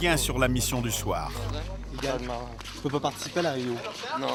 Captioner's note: French spoken audio